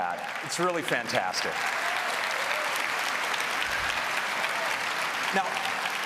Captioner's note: applause